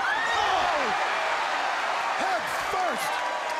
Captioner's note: crowd cheering